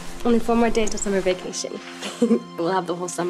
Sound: Lisa chuckles

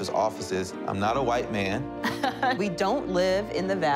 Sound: woman laughs

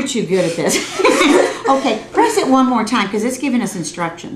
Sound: laughter

